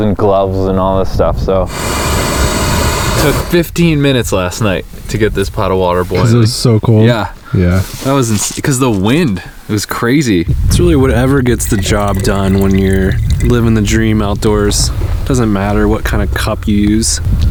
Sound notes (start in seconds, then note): 1.6 gas hissing